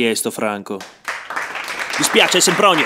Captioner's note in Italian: folla applaudisce